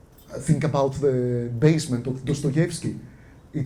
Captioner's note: none